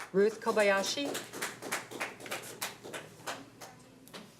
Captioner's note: applause